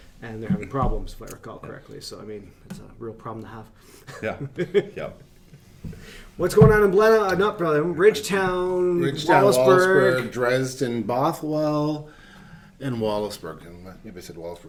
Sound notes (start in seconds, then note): 3.4 laughing